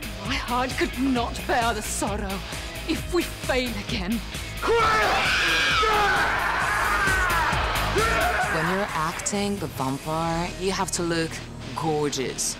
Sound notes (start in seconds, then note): 4.6 screaming; 4.6 roars